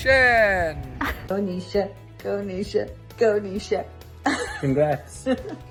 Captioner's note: laughing